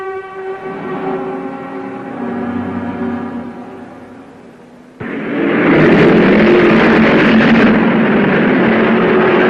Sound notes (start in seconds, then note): 0.6 car revving; 5.0 cars revving